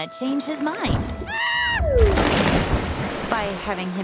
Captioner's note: screaming